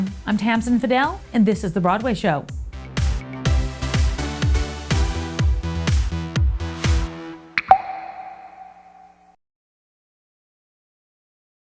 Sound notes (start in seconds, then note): 3.5 upbeat music; 7.6 water drop plops